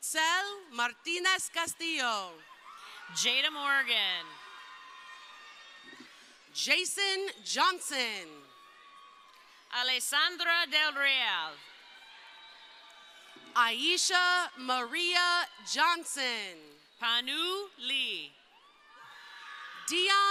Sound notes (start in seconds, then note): 5.0 crowd cheering; 10.6 crowd cheering; 17.9 crowd cheering